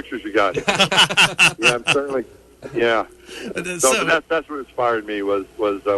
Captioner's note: laughter